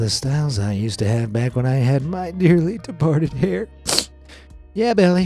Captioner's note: sniffles